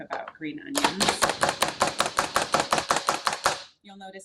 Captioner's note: chopper chopping